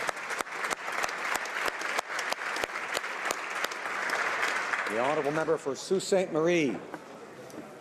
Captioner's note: applause